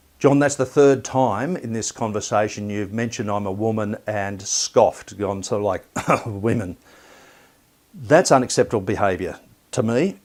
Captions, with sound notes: "John, that's the third time in this conversation you've mentioned I'm a woman and scoffed, go on sort of like (makes scoffing noise) 'women'. That's unacceptable behaviour to me